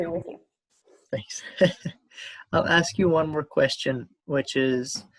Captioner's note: laughs